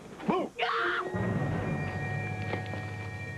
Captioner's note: screams